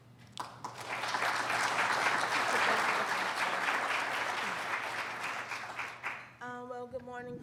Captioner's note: applauding